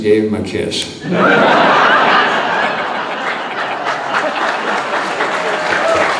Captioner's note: audience laughing and clapping